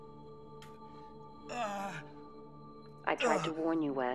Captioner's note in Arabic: آهات